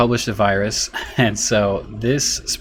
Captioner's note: chuckles